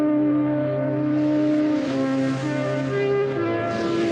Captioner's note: lights swoosh